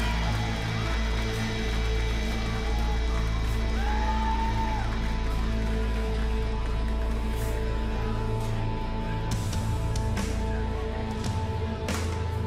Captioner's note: crowd cheering